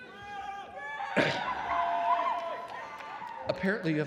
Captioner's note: attendees cheering